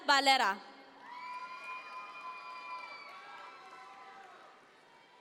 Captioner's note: audience members cheer